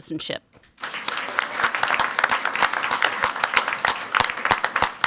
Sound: crowd clapping

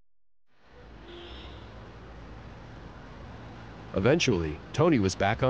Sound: horn honking

